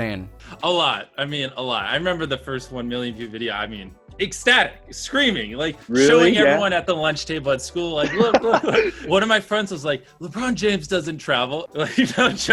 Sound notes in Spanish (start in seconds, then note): 8.0 risas